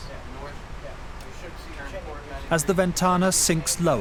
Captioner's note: men chatter